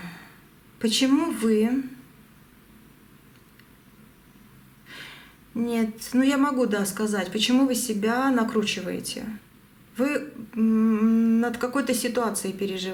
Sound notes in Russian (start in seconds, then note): 0.0 вздыхает; 2.1 тяжело вздыхает